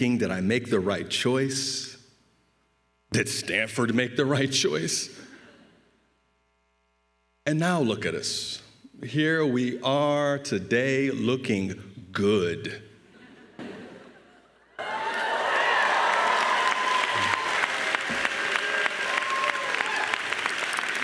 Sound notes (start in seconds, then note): 14.8 crowd cheering and applauding